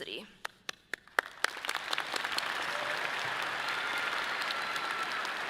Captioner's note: audience applauding